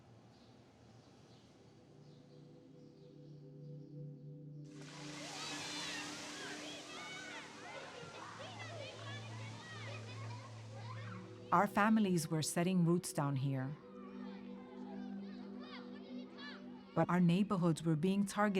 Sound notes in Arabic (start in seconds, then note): 2.0 موسيقى حزينة; 4.8 صراخ الأطفال